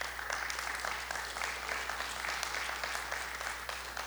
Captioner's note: audience applauding